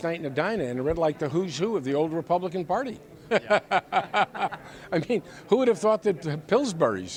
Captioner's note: laughs